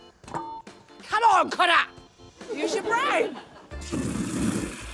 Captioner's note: laughter